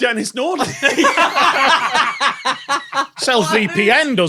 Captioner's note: group laughs uproariously